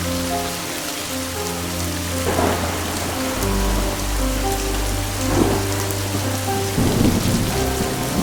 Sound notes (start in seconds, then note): 2.0 thunder crashing